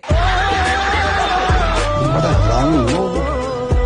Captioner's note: laughing